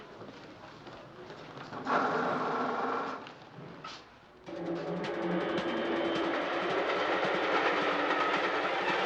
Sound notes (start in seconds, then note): 4.9 train clattering